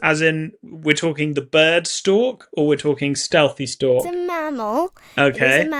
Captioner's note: none